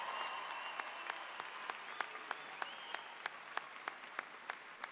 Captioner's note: audience applause